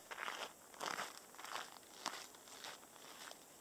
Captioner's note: snow crunching